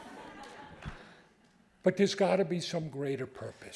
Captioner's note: audience laughing